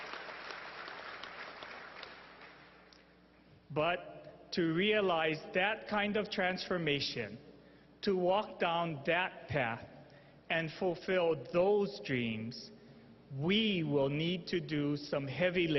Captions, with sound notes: ACCOUNTABLE FOR ALL THAT WE DO. [ APPLAUSE ] BUT TO REALIZE THAT KIND OF TRANSFORMATION, TO WALK DOWN